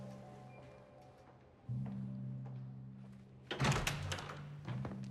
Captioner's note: footsteps approach